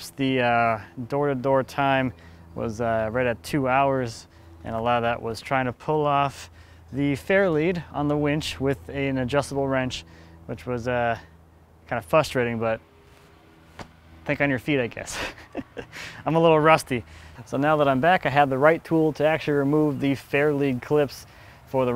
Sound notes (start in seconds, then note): 13.7 hands slapping; 15.1 laughing